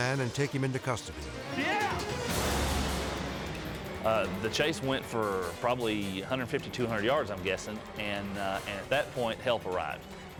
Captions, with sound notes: and take him into custody. (officer shouting) - The chase went for probably 150, 200 yards, I'm guessing. And at that point, help arrived.